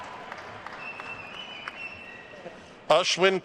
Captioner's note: attendees cheering and applauding; attendee whistling